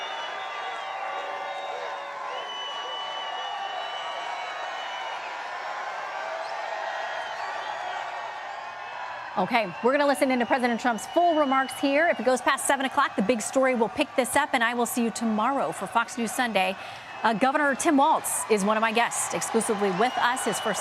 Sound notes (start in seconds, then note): 4.5 cheering; 6.1 applause